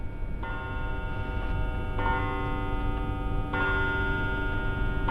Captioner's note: bell ringing